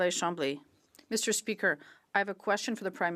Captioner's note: speaking French